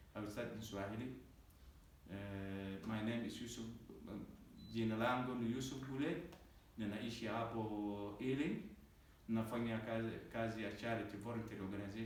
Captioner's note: speaks Swahili